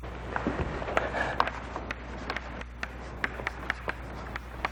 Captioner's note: chalk tapping